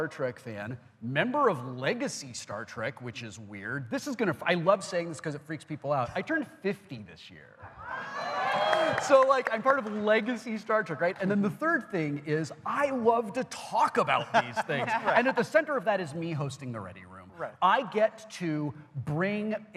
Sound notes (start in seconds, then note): 14.1 audience reacts